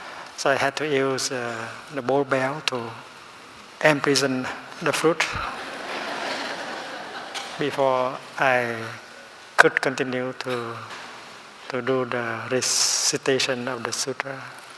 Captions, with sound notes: So I had to use the bowl bell to imprison the fruit (Laughing) before I could continue to do the recitation of the sutra.